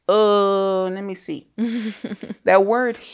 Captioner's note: chuckles